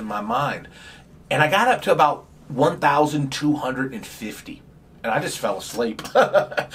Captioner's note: laughs